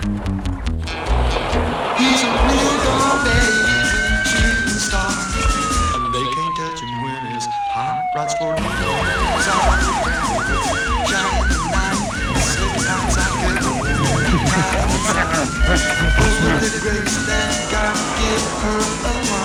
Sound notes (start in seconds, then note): 9.1 police siren; 15.0 Buddy laughing